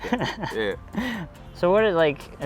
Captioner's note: laughs